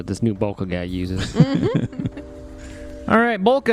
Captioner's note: laughs